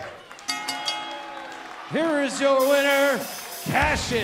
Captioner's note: bell ringing